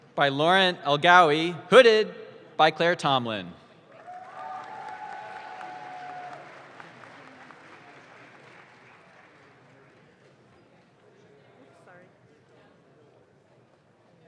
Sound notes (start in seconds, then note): 3.9 audience claps